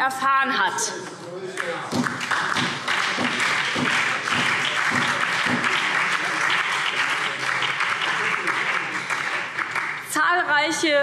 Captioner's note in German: Beifall